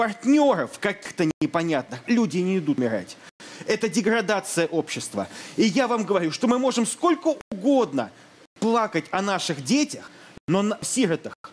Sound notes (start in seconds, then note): none